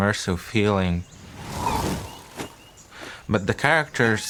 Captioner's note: wings whooshing